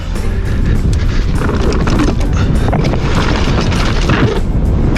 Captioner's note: bike tires on ground